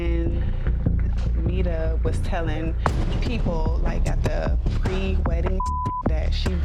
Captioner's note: beep